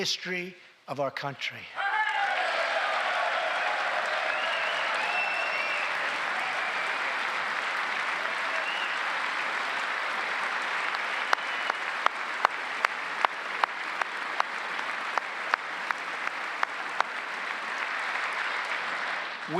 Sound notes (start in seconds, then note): 8.7 cheers and applause